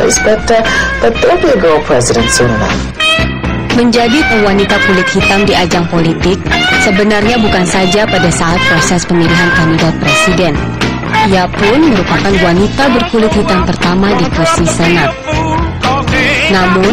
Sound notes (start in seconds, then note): 8.3 non-english speech